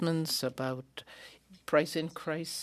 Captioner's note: speaking French